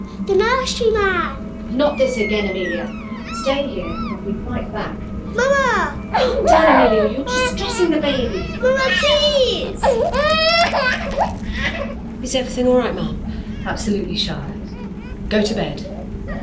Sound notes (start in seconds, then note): 9.9 cracking sound